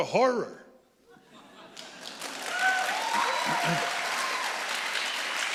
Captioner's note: audience applauding